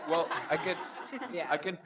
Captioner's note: audience laughs